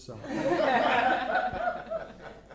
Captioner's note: laughter